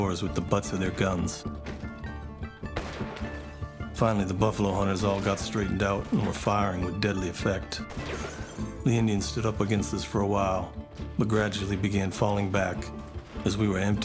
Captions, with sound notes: with the butts of their guns. [Gunfire] Finally, the buffalo hunters all got straightened out and were firing with deadly effect. The Indians stood up against this for a while, but gradually began falling back, as we were emptying